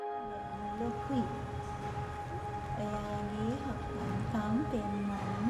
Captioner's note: reading aloud in a foreign language